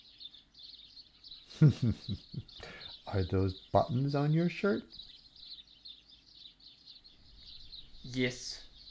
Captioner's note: chuckles silently to self